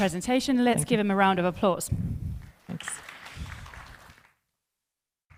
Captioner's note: applause